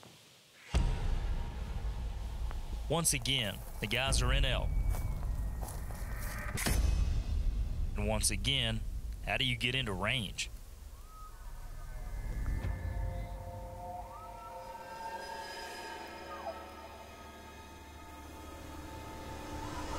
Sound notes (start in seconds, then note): 0.8 tense music; 12.7 elk bugling; 12.7 tense music